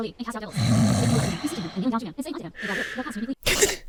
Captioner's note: Emma snoring; Emma gasps awake